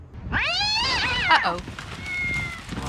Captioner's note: cat yowling